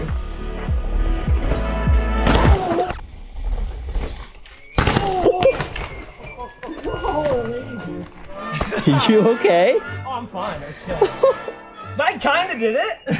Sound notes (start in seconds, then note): 2.5 music stops abruptly; 4.9 bike thuds